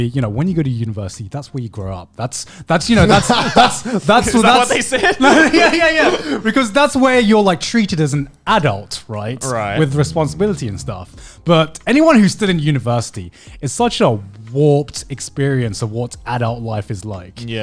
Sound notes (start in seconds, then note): 2.8 laughing